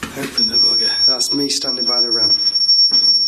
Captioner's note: machine beeps